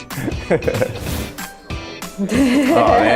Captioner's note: laughing